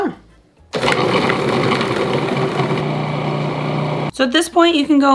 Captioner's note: food processor whirring